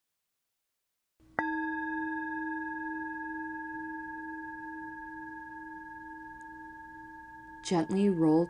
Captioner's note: chime